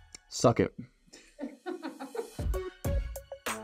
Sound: laughter behind camera; rhythmic music

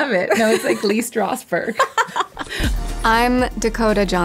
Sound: laughs

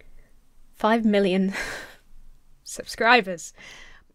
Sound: sighs

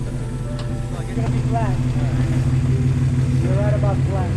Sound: engine revving

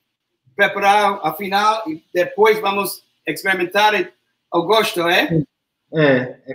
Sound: speaks portuguese

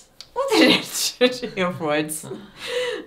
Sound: laughs

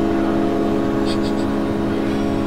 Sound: emma sobs

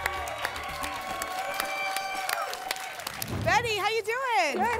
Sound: applause and cheering

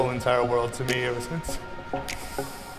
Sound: exhales

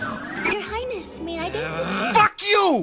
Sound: Kyo growls

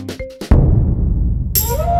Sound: gong; serene music

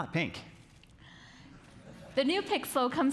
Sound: audience chuckling

